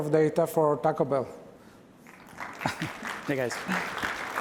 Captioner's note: applause